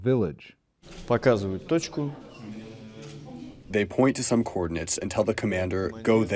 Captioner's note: through translator